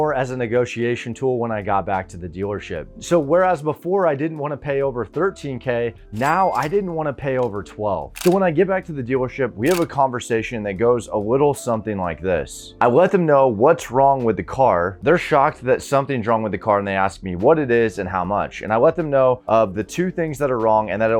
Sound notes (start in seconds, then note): 6.2 cash register dings